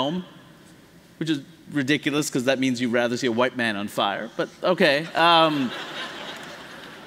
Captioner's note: laughter